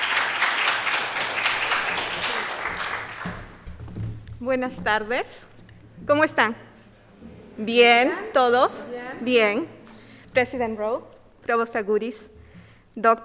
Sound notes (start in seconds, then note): 4.4 speaks in foreign language; 8.7 woman speaking in foreign language